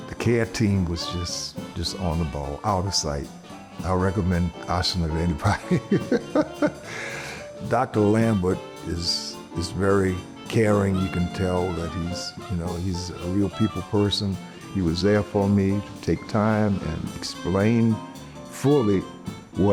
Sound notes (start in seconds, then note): 5.5 laughs